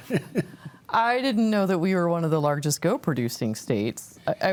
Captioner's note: chuckles